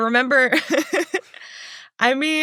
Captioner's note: laughs